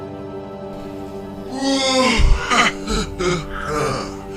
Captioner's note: evil Laugh